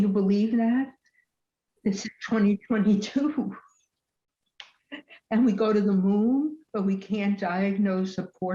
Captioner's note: laughs